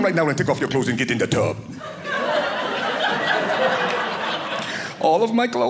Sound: audience laughing

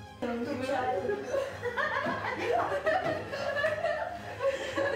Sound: mothers laughing about reaction

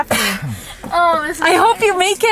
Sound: speaker 2 coughing

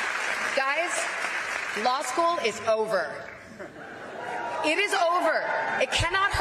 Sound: applause

